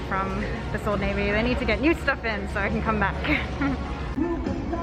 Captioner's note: laughs